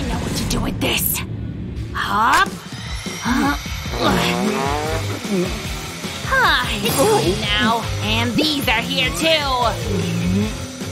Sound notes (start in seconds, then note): 3.1 groans; 5.7 sighs